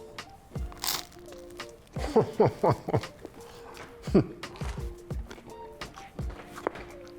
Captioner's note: pizza crunches; chuckles